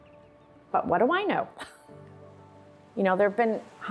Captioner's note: chuckling